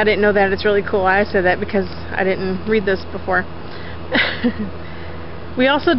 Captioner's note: laughs